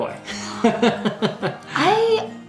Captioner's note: laughs